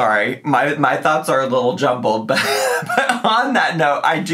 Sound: laughs

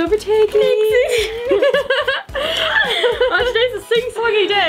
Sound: laughing

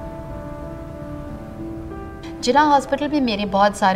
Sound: speaking urdu

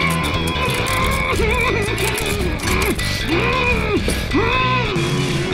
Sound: muffled screams

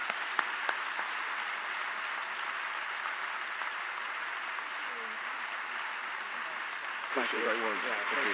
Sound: applause

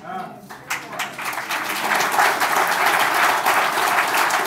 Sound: audience applauding

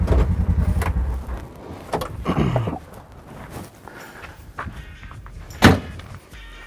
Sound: engine stops; Greg clears throat; car door closes loudly

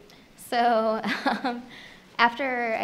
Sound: laughs

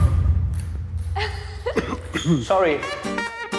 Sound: laughs loudly

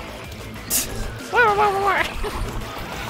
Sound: imitating unicorn dying noises

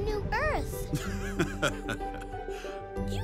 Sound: laughs

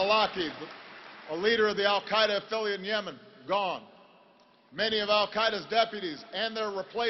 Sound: applause

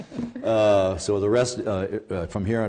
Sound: chuckles

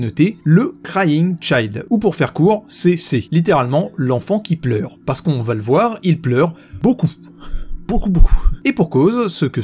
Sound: in french

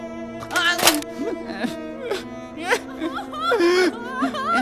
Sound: crying like a little bitch

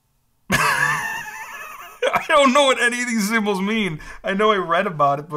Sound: laughs

